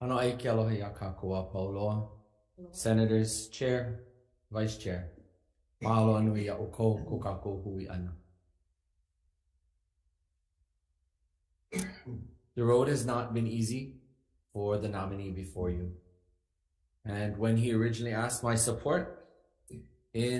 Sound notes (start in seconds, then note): 0.1 speaking Ōlelo Hawai'i; 5.8 speaking Ōlelo Hawai'i